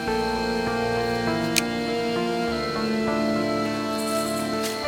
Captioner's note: knife clicks